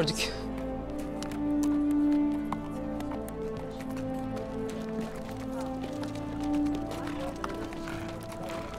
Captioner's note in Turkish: At nalı sesleri